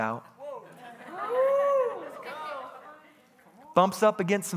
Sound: congregation bustling

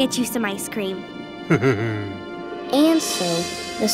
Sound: chuckles

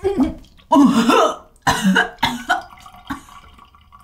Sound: person coughing

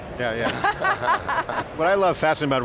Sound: laughs

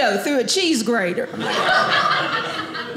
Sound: audience laughing

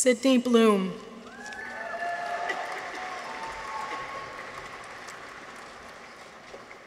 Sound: people cheer; audience applauds

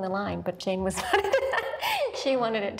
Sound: laughs

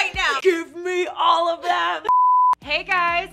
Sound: screen beeps

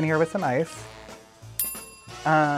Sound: bell dings

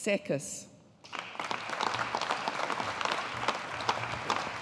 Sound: audience applauding

